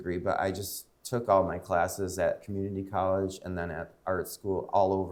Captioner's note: none